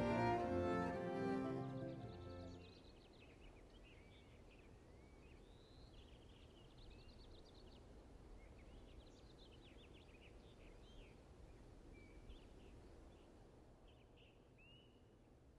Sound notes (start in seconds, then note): 0.0 birds chirping